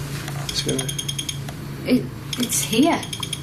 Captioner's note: loud beeping